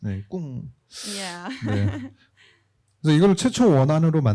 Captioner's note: speaking korean